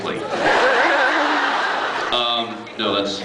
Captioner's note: laughs